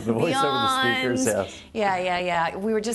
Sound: laughing

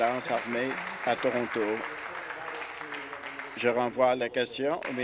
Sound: applause

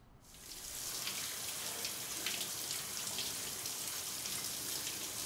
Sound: water running

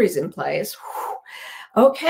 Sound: sighs

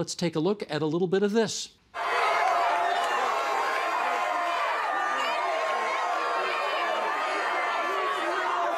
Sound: crowd noise

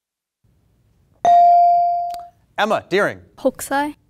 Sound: buzzer pings

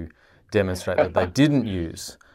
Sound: laughs

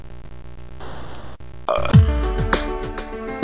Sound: burp

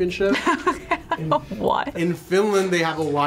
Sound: laughs

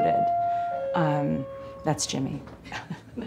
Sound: doorbell rings

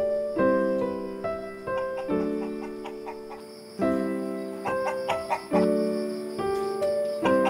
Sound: cluck cluck; cluck cluck

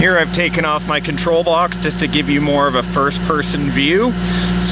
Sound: none

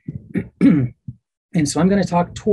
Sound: clears throat

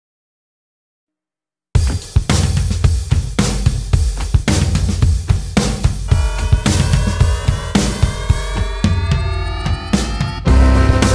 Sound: sound of the void

